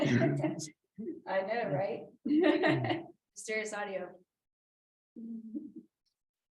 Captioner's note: laughter